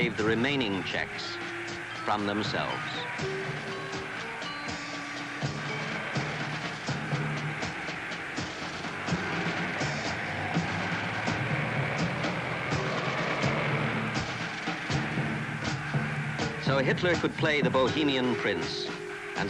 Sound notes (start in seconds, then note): 3.1 crowd cheers; 3.1 tense suspenseful music